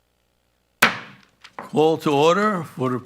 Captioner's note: gavel thumping